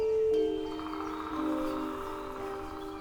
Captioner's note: woodpecker pecking